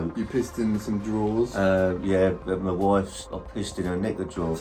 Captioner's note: none